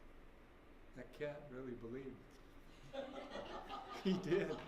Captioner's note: laughter